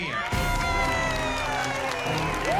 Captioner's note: cheering and applause; whooping